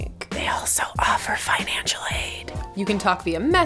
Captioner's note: whisper